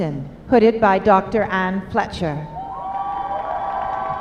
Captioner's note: applause